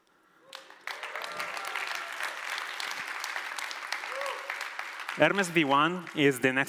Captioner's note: applause